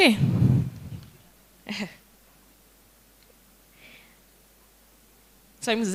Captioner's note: indistinct conversation